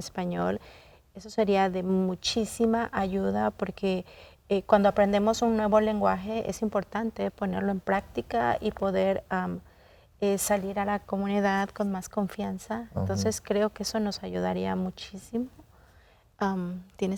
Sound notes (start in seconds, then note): 4.6 continues speaking in Spanish